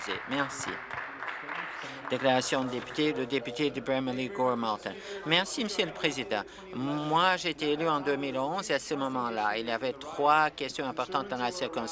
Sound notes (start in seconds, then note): 4.1 applause